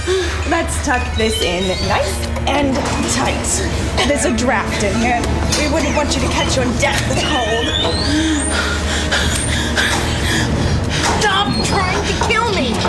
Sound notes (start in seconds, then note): 7.5 elevator squeaks. Faye gasps, trying not to choke